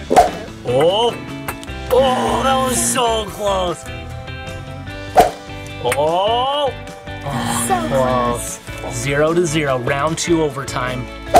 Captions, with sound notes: (eyeball whooshing) Oh, oh, that was so close. (mellow music) (eyeball whooshing) Oh! - So close. - Close. Zero to zero, round two overtime.